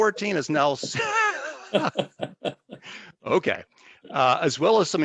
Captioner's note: laughing